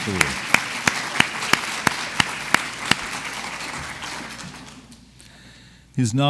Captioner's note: clapping